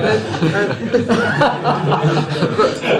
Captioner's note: laughter